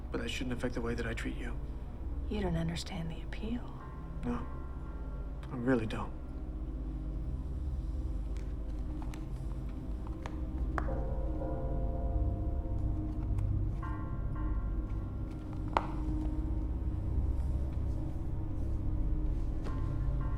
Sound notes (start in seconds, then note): 6.7 suspenseful music; 10.0 shoes tapping; 16.9 suspenseful music